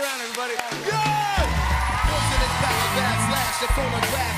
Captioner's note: cheers and applause